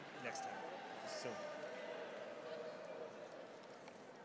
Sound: mutters quietly

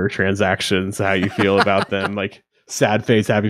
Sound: laughing

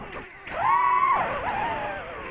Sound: angry drone noises

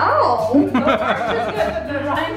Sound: laughs

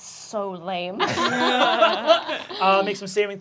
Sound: laughing

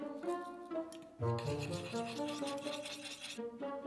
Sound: whisking

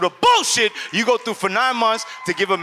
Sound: audience cheers

